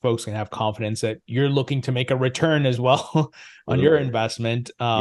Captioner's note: chuckles